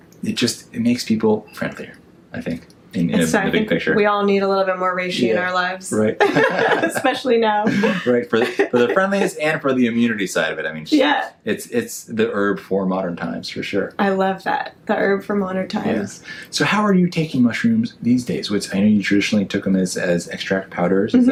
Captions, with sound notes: It makes people friendlier, I think in a big picture. - We all need a little bit more reishi in our lives. (laughs) - Especially now. - For the friendliness and for the immunity side of it. I mean, it's the herb for modern times, for sure. - I love that, the herb for modern times. - So how are you taking mushrooms these days, which I know you traditionally took them as extract powders.